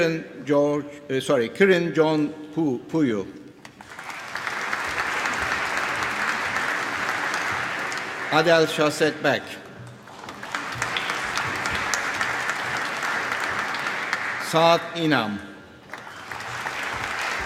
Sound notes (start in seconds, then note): 3.7 applause